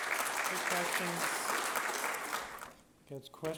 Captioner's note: applause